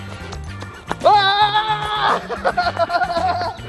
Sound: Rocky laughs; Rocky screams; Rocky laughs

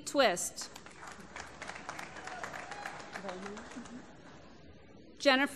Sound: applause

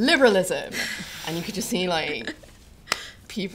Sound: laughter; scattered chuckling

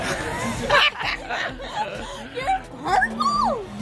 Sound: all laugh

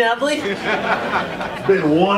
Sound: audience laughing

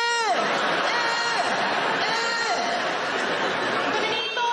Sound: audience laughing

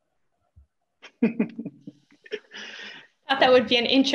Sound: laughs

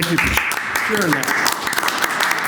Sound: applause

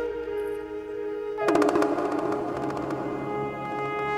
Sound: conch blows

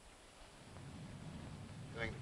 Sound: thunder rumbling

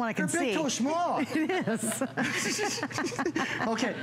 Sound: laughter

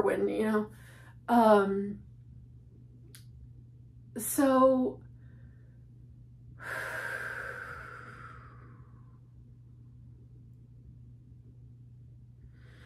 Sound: deep breathing

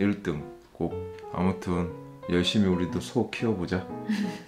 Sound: laughing

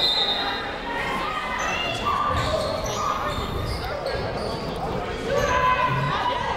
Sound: whistle tweeting; people shouting in the crowd

